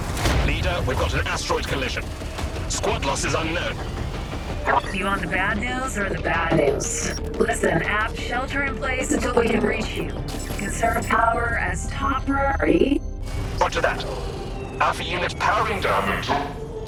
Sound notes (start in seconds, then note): 5.0 radio; 5.9 zzrr; 10.6 zzt; 13.3 zzzrt